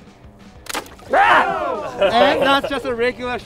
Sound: crowd shouting

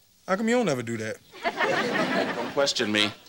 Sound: audience laughing

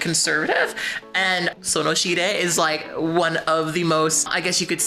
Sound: speaking Korean

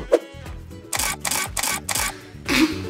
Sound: camera flashes; laughs; snorts

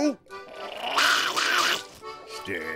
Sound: barking, growling

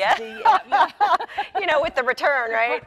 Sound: laughing

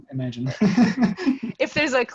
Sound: laughs

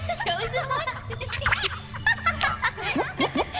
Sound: laughing

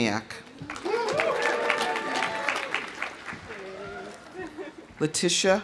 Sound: audience applauding; audience cheering

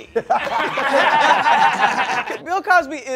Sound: laughing

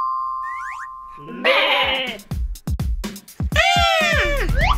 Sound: sheep baa; Gigglebots yell

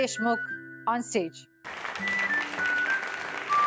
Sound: clapping

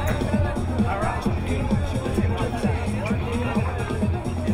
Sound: crowd chattering

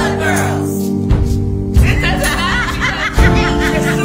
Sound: laughter and overlapping talk

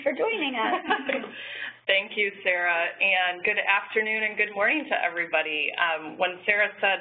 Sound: laugh

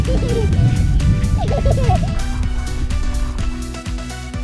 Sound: laughter

